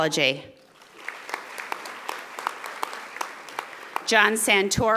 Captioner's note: audience applauding